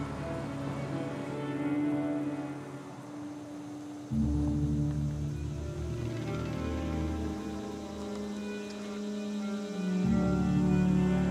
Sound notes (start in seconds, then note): 2.5 cicadas buzzing